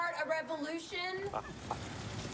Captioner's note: laughs